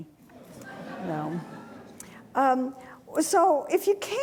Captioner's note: audience laughing